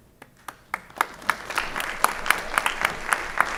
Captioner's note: applause